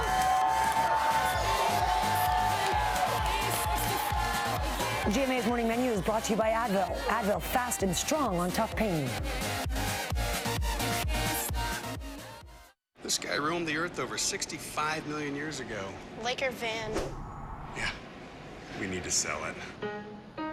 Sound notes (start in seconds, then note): 2.0 cheers and applause